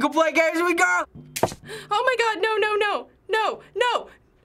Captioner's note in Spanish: Interruptor de la luz hace clic